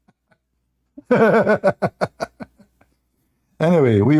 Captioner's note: Ketawa